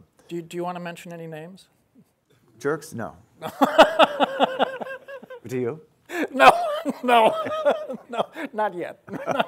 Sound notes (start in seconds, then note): 6.1 laughing